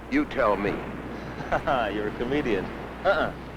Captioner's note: chuckling